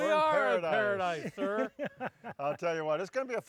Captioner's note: laughs